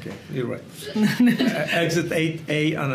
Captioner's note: both laugh